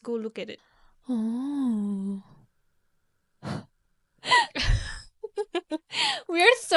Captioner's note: both laughing